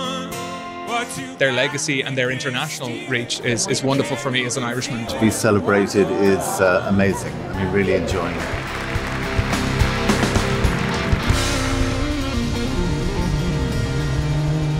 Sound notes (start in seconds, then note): 7.7 all clapping; 11.1 electric guitar playing